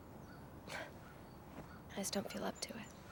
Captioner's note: sighs